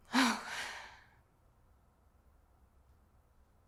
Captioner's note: sighs